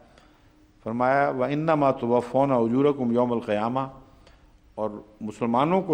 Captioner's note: Arabic